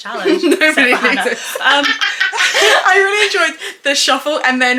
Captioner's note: laughs